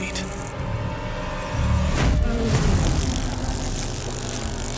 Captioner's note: hornets buzzing